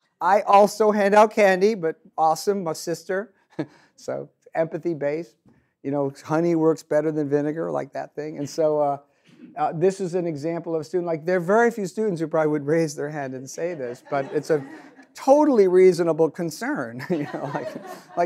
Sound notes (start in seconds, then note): 13.4 audience laughs